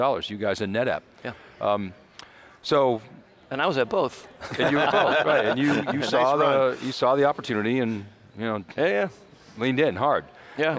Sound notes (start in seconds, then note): 4.5 laughs